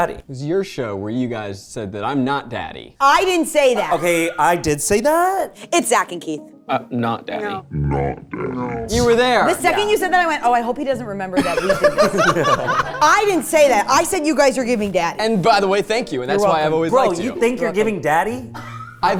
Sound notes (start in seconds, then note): 11.4 laughing